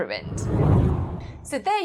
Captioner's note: hard whooshing